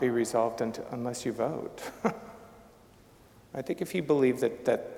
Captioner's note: chuckling